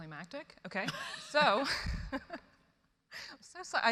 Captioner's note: chuckles